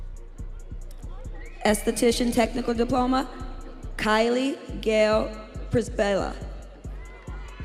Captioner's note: students cheering